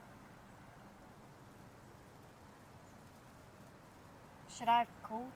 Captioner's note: street noise